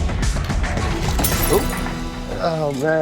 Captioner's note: glass shatters